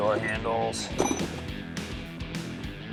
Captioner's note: clinking